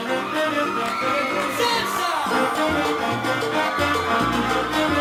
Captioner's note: audience cheering